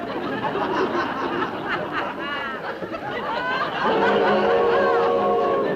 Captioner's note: audience laughing